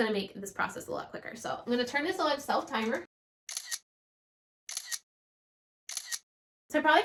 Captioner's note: shutter click sounds